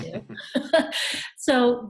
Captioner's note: all laugh